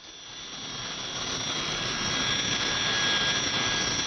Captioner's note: plane engine whirring